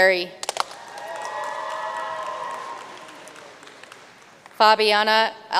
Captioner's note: audience cheering and applauding